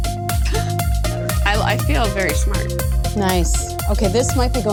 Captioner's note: laughing